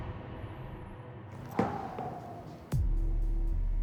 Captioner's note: exhales